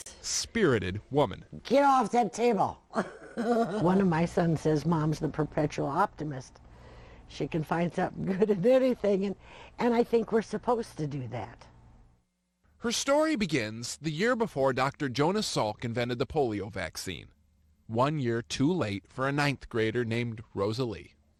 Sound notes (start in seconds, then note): 9.1 laughs